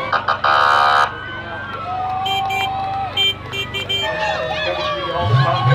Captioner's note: fire truck siren; car honking